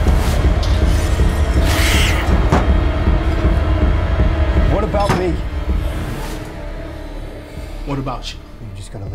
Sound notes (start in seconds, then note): 1.6 creature screeching